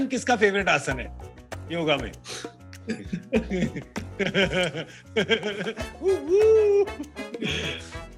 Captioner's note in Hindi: हंसते हुए